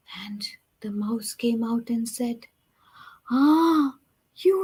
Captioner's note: none